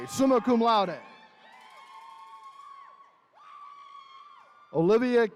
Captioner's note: attendees cheering